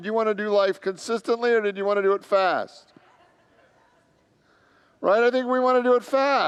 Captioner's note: congregants laugh